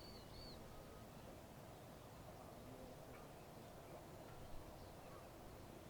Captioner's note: birds chirping